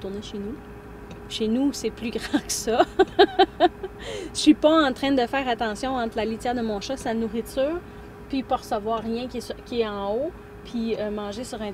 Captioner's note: laughs